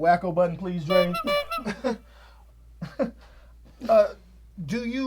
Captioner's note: horn honks; scoffs; Cedric laughs